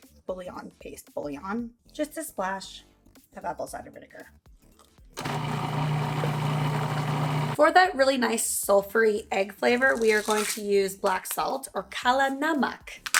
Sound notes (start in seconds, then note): 5.2 whirring